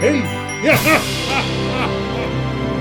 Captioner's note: Santa Claus laughs